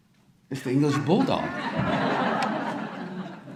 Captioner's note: audience laughter